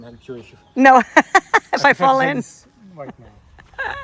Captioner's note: laughing